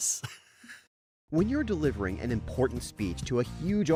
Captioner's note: voiceover